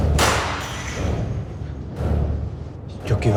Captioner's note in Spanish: Estruendo